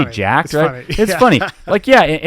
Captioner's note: laughing